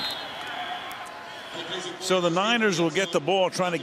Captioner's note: whistle